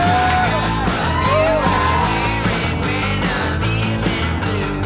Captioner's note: crowd cheering